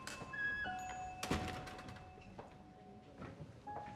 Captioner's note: door closes